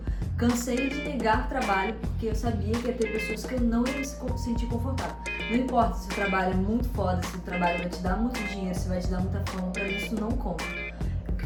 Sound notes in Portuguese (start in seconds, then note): none